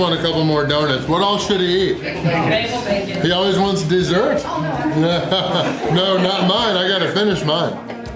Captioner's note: crowd